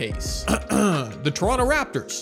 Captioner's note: clears throat